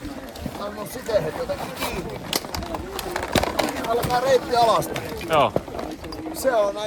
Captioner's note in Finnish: askelten ääniä